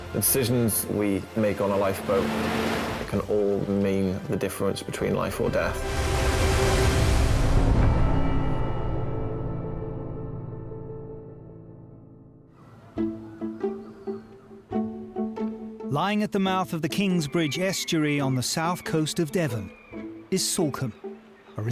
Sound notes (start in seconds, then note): 5.3 waves crash; 12.6 seagulls squawk; 12.8 mellow music